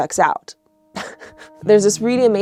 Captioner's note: chuckles